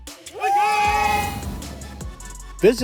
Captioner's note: cheer. Applause